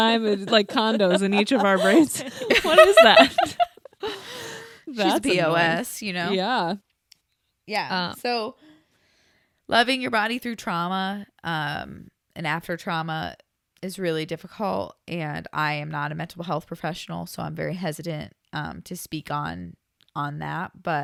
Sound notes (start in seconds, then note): 3.7 everyone laughs